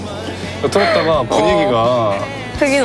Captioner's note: haha